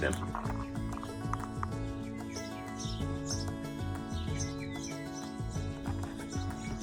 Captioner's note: birds chirp; upbeat music